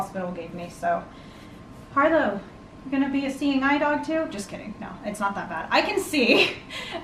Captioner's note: laughs